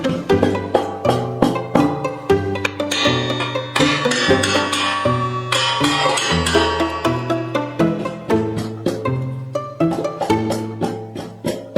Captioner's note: sound of hammer striking the foot